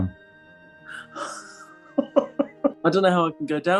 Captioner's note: gasps and giggles